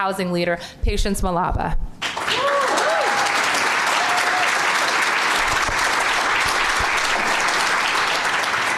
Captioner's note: applause